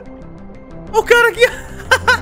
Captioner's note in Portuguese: risos